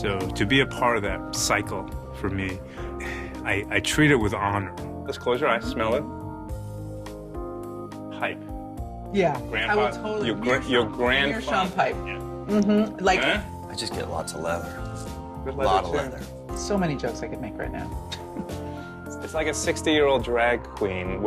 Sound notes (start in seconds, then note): 18.1 chuckles